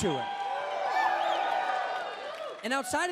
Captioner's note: audience cheers